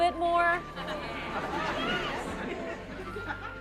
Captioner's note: laughter